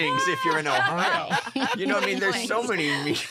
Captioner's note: laughter